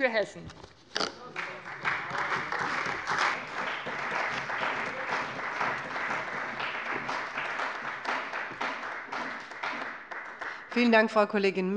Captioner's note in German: Beifall bei dem BÜNDNIS 90/DIE GRÜNEN und der CDU